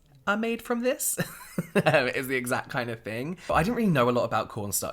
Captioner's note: laughing